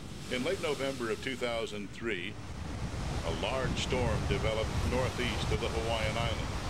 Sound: waves crashing

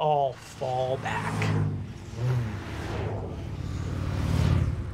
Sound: whooshing

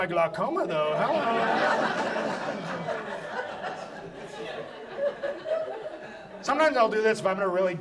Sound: audience laughs

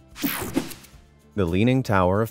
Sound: screen whooshing

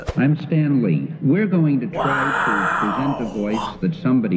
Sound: whispers

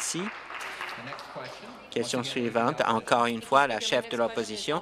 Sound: some applause

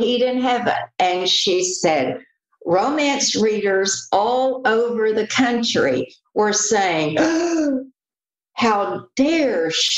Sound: gasp!

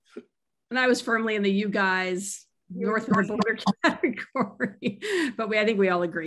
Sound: laughs

